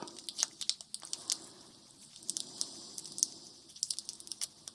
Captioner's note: tape crinkling